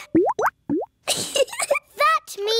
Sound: bubbling; giggles

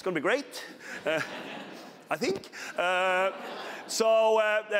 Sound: laughter

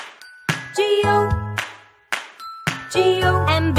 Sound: clap

